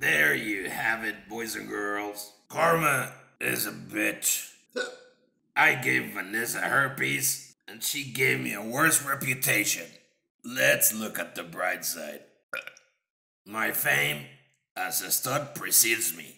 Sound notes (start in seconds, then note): 4.7 hiccup; 12.5 burp